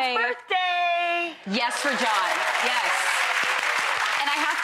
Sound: clapping and cheering

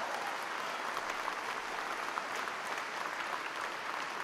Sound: applause

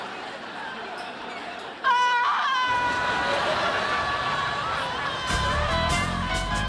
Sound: screaming

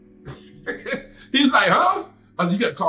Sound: laughs

